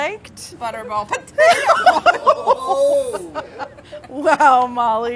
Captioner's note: laughing